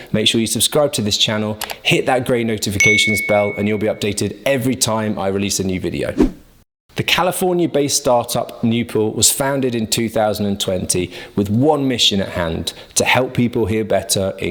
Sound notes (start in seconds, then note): 6.2 air whooshes